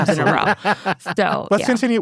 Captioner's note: laughs